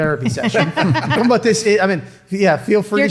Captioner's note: everyone chuckling